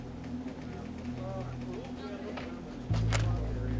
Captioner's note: officers chattering